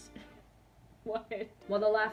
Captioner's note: laughs